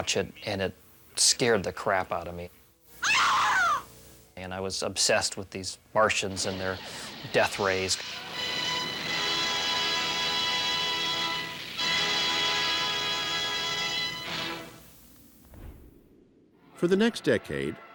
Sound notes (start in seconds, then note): 3.0 woman screams; 8.2 epic music playing